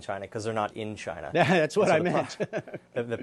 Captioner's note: laughter